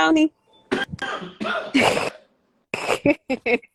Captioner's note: coughing